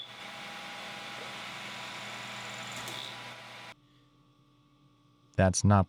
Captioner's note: machine whirring continues